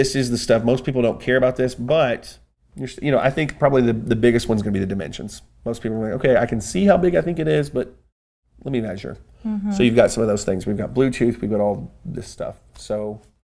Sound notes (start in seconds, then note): 9.5 laughs